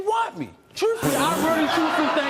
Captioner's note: audience laughing